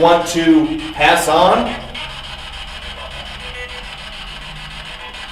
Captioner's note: static buzzing